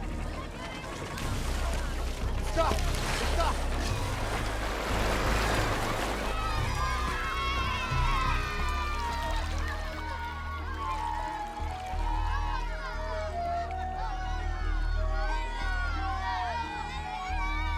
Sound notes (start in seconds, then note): 2.0 speaking in arabic; 6.4 all shouting and cheering